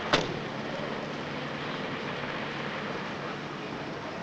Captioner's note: car door slams